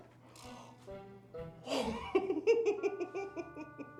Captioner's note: laughing